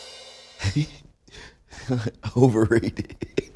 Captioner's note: drum roll plays; laughing